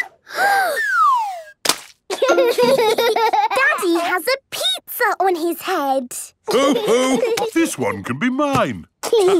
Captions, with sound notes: - (Peppa gasps) - (splat) - Daddy has a pizza on his head. - Ho, ho! This one can be mine.